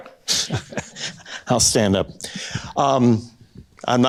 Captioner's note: chuckles